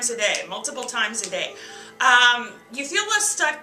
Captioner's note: snap,snap